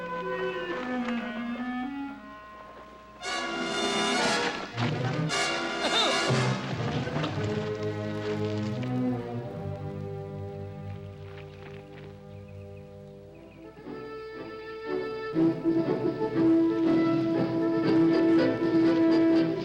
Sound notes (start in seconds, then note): 3.3 intense orchestral music; 5.8 soldier gasps; 13.8 dramatic orchestral music